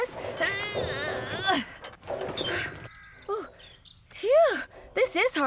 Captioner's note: grunting